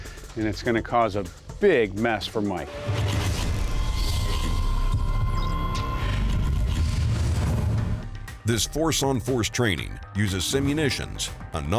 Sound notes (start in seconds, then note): 2.7 high-tech mechanical sound